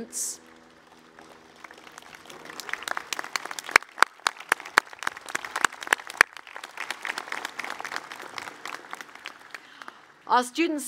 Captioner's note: applause